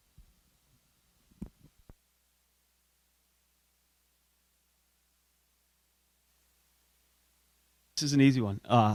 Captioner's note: silence